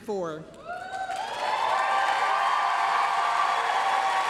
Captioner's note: applause, cheering